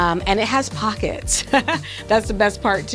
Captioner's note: chuckles